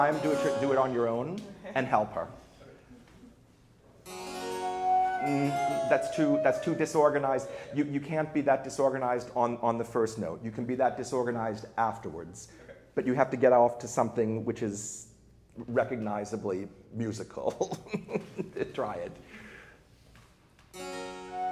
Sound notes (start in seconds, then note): 4.1 baroque flute and harpsichord music; 17.6 laughs; 20.8 baroque flute and harpsichord music